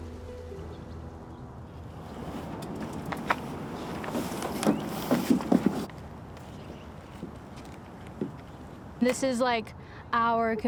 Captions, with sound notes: Mother Earth is hurting. (delicate harp music) (canoe gently scraping) (muffled footsteps)